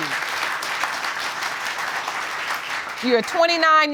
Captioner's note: audience applauding